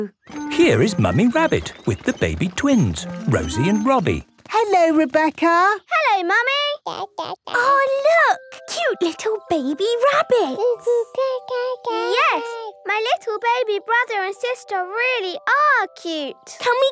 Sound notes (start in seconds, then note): 6.8 babbling